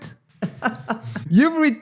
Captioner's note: laughs